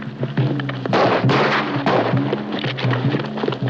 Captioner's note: gunshots; gun cocking; gunshot